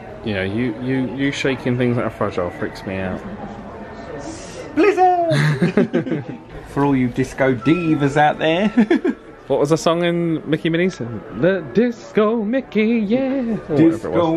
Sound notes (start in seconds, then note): 5.3 pair laughs; 9.3 laughs